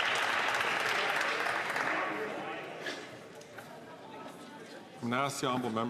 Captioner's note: some Applause